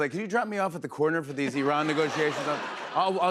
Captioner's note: laughter